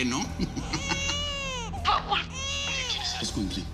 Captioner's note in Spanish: Llanto del bebé